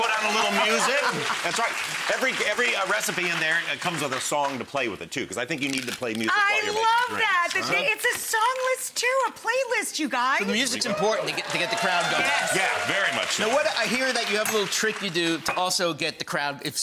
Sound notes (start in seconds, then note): 0.0 crowd cheers; 10.6 audience cheers